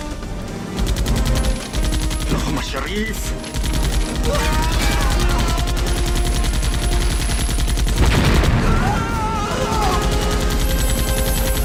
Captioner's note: spaying cubes like gunfire